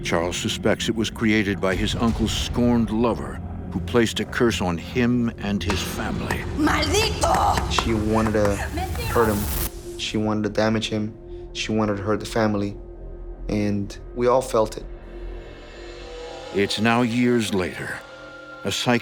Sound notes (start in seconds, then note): 6.8 woman speaking Spanish